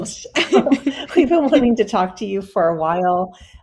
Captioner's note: laughs